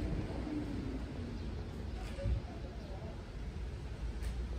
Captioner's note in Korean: 선선하게 부는 바람